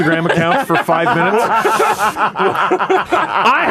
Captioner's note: maniacal cackling